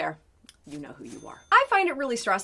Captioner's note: cash register dings